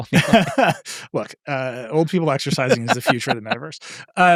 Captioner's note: laughing